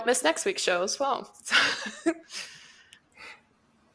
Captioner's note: laughs